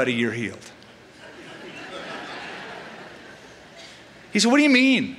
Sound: laughter

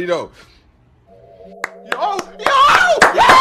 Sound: clap clap clap

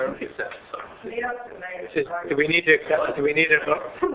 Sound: mumbling

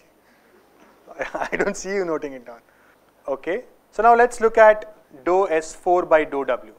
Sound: laugher

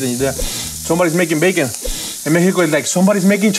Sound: sniffs

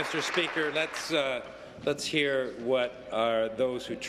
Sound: applause

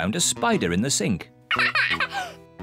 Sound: laughs

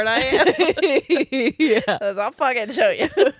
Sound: both laughing

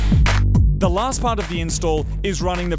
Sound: voice over

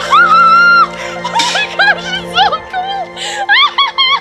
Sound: screams

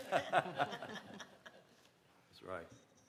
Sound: laughter

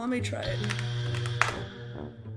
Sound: buzzer

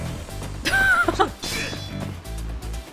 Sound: chuckles

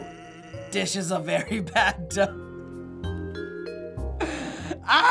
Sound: laughing

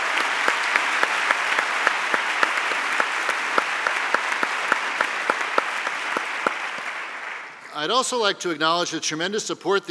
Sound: applause

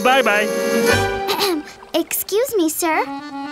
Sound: clearing throat

